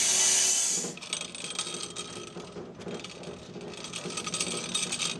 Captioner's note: saw chassis rattling